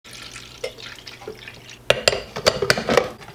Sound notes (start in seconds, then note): 0.0 water pouring; 1.8 glass clinks